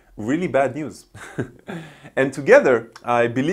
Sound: laughs

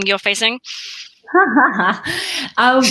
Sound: laughs

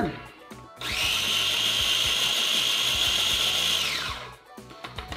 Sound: blender grinding

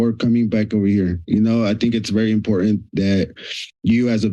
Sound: sniffs

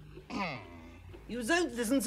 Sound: clears throat

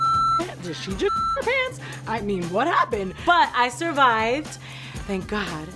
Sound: beep

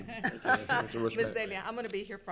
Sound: laughing

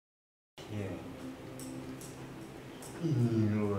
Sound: speaking in Spanish

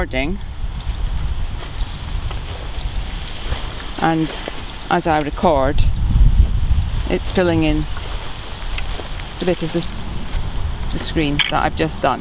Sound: steady beeping

